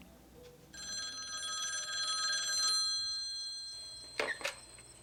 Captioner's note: phone ringing